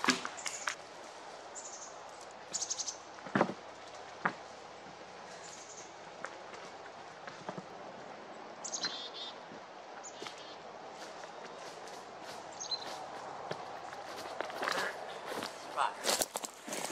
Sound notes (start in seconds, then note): 0.0 leaves and branches rustling, dropping the log into its slot; 1.6 chickadees chirping, footsteps